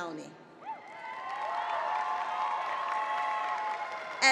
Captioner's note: applause